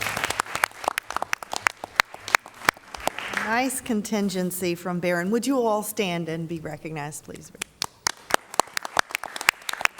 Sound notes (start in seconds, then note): 0.0 applause